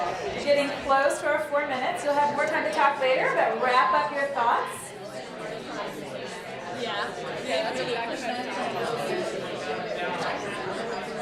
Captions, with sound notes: We're getting close to our four minutes, you'll have more time to talk later but wrap up your thoughts. (excited conversations)